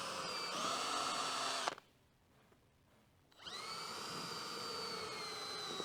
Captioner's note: drilling